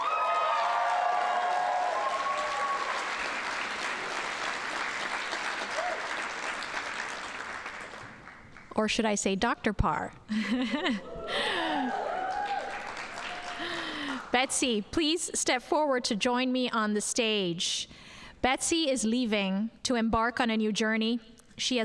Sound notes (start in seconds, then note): 0.0 audience cheering and applauding; 10.3 laughs